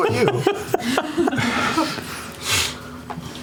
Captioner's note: laughter